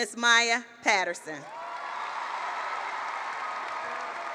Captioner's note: applause